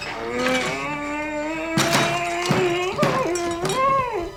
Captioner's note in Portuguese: Gloq grunhindo frustrado